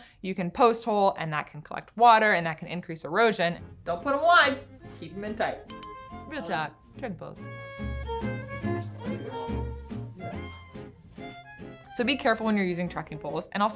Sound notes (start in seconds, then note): 5.7 bells ding; 9.3 light funky music